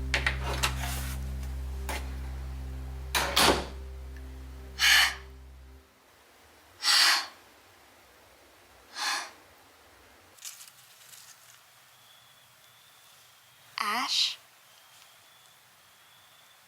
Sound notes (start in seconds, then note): 4.7 Tally exhales